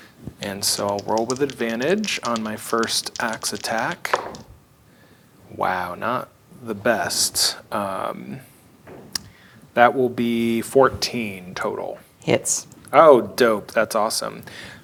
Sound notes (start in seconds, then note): 3.3 dice rattling; 4.0 dice rolling